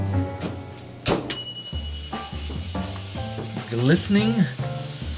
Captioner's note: timer dings